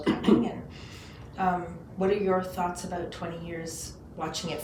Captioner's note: clears throat